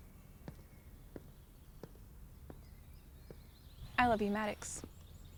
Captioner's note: footsteps thumping